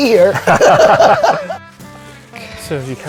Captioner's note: both laughing; gentle music continues